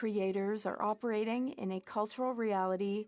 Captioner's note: speaking French